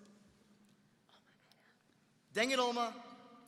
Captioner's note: whispering